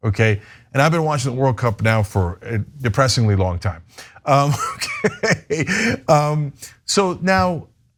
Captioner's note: laugh